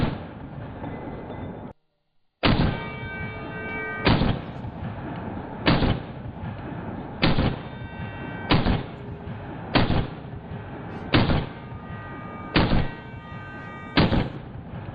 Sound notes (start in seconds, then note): 2.4 gunshots bang repeatedly; 12.1 loud ringing